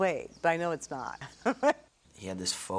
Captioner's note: laughs